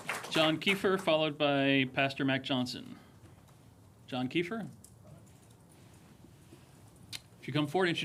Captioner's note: applause